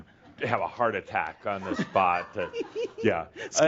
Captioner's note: she giggles